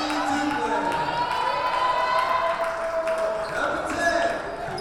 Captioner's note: cheering and applause